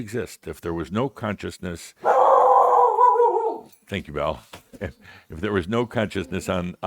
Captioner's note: Belle suddenly barks loudly